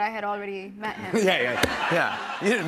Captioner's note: laughter